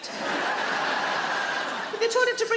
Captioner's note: audience laughing